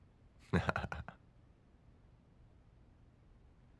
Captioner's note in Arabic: يضحك